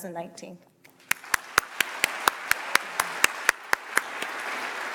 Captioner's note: audience applauds